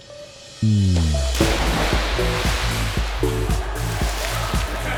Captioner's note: water splashes; light pop music